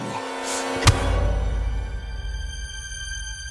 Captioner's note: loud thud